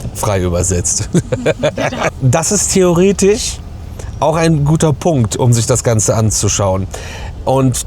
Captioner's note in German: gelächter